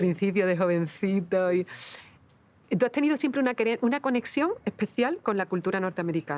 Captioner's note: speaking Spanish